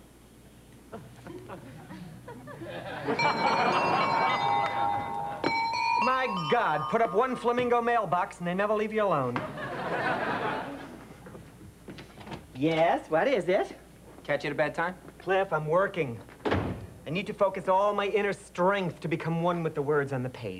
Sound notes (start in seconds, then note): 3.0 doorbell plays